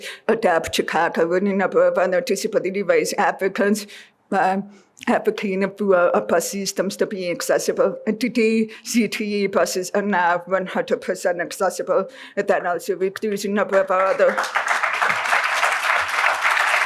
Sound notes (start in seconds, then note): 13.7 applause